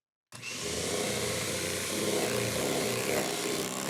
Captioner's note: mixer whirring